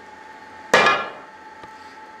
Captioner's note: metal hammering